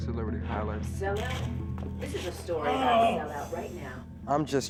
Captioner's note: voiceover